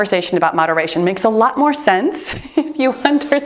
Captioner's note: chuckles